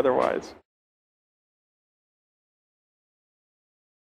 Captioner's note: pause